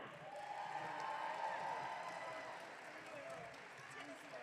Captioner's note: audience cheering